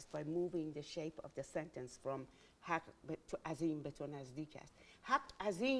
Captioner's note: speaking in Farsi